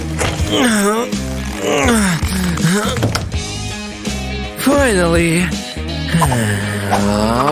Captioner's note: grunting